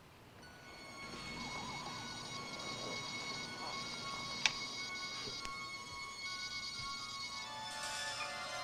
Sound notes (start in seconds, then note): 0.4 eerie music; 0.9 laser whirring